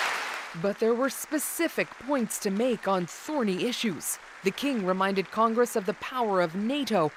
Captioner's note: applause